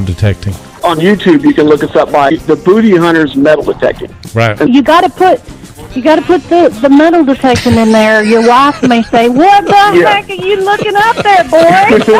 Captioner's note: laughter